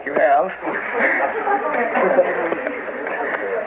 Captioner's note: laughter